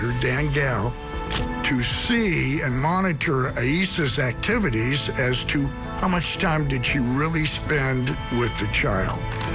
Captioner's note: camera shutter clicks